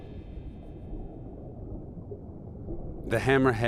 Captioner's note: water whirring